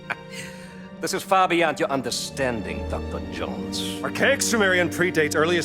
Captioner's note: laughs